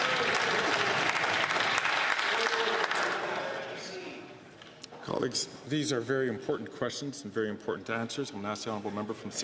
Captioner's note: some Applause